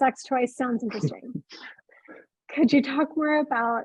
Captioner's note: chuckling